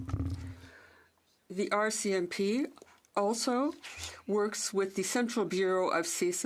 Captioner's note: speaking French